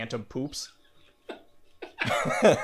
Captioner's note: laughing